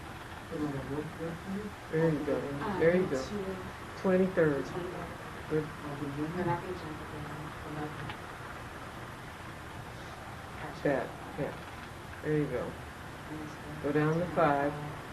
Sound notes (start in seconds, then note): 5.8 people chattering faintly